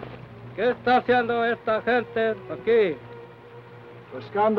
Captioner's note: Chief speaks foreign language; speaks foreign language